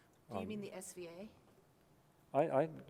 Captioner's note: voiceover